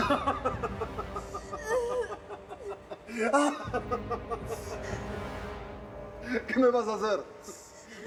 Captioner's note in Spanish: Sollozos; Carcajadas